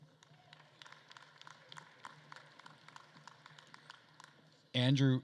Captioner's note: attendees cheering and applauding